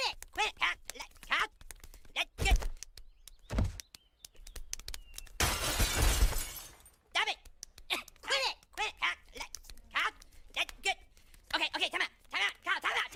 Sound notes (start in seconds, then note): 7.2 slapping